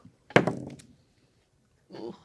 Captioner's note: dice rolling